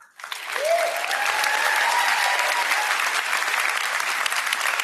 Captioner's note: applause